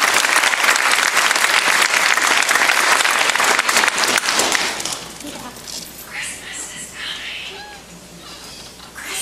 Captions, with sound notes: (whisper) Christmas is coming!